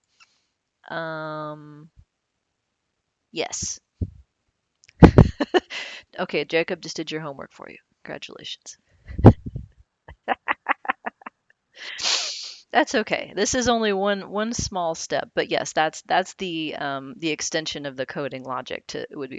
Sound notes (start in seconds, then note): 5.0 laughs; 10.1 laughs